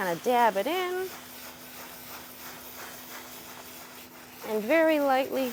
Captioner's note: paper scraping